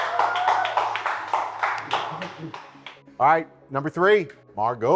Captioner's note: contestants clapping